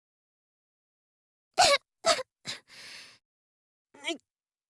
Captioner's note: cough